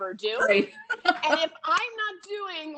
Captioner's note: laughing